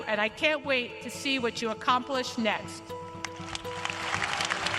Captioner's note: applause